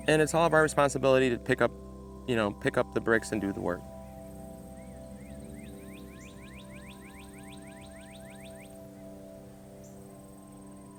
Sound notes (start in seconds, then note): 5.5 birds chirping